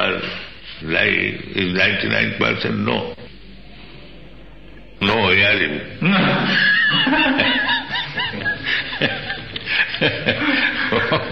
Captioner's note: laughter